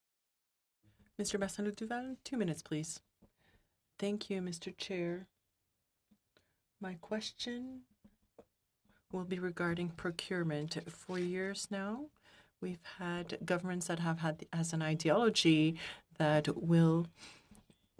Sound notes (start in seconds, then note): 10.5 speaking in French